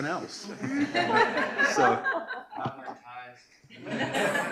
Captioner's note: laughter